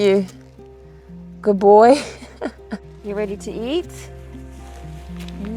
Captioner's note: chuckles